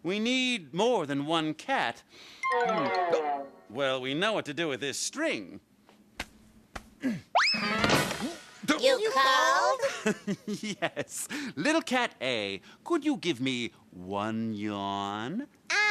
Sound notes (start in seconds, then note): 9.4 laughing